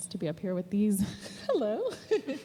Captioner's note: laughs